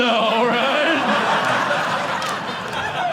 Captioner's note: audience laughing